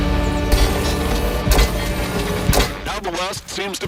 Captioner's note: mechanical clinking